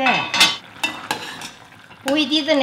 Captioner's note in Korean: 숟가락으로 휘휘 젓는 소리